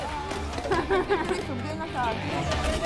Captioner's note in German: Jemand lacht